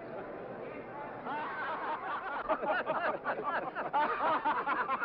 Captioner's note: men laugh